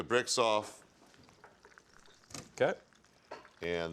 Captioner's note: pan sizzling softly